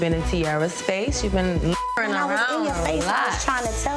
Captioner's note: beep